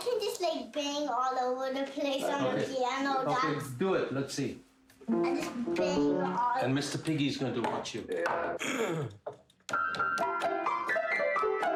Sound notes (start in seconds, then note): 8.6 clearing throat; 9.8 banging on piano